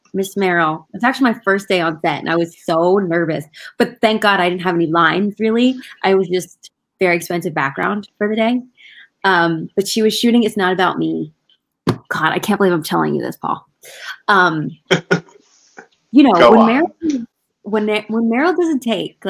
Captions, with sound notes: Ms. Meryl, it's actually my first day on set. And I was so nervous, but thank God I didn't have any lines really. I was just their expensive background for the day But she was shooting "It's Not About Me." God, I can't believe I'm telling you this, Paul (laughing) - Go on. - When Meryl does a take